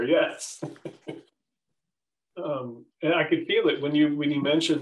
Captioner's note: laughter